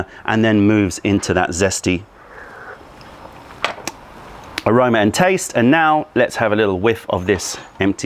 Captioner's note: sips tea